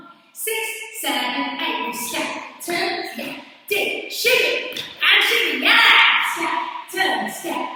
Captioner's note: counting 6 7 8